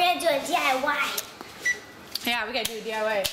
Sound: beep

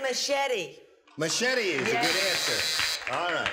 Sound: buzzer

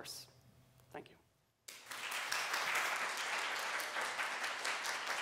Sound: applause

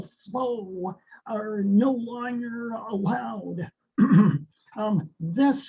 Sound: clears throat

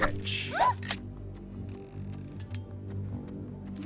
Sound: yelps

